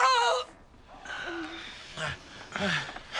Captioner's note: man continues screaming